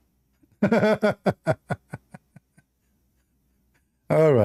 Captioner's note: Ketawa